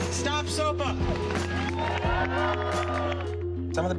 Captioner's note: cheers and applause